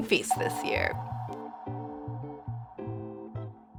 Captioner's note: logo echoes